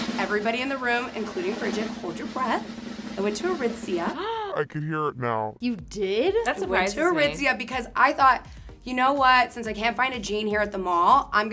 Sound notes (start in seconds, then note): 4.2 gasps